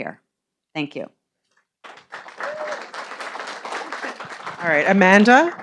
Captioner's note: audience applauding